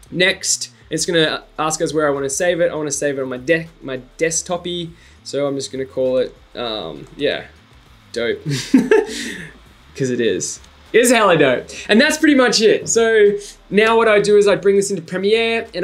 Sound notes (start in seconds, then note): 8.5 giggles